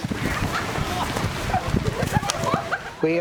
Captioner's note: laughing